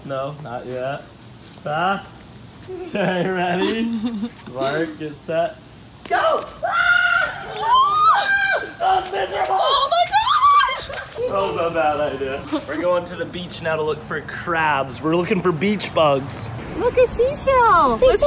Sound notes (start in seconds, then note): 6.1 they all scream